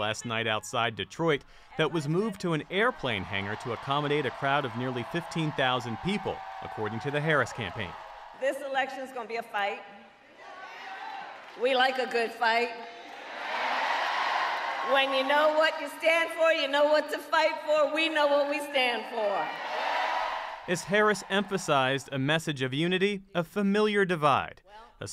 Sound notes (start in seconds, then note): 10.2 cheering; 11.0 applause; 13.9 cheering; 20.6 applause; 20.6 cheering